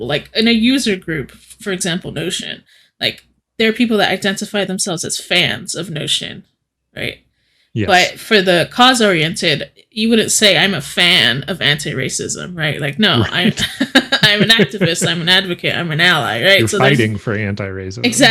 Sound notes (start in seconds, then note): 13.0 laughing